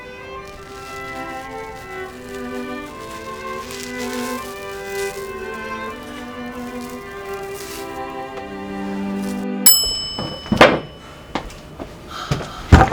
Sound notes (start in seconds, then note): 0.7 mask peeling; 9.6 bell dings